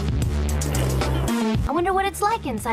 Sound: club music; club music continues in background; sip

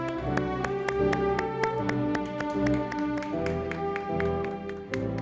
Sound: audience applauding

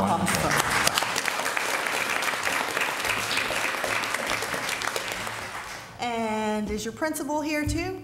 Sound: applause

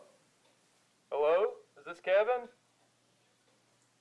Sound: phone voice

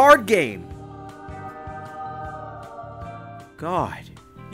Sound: heaven Sound effect

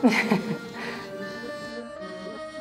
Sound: laughs; circus music

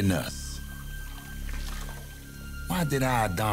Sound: water splashing

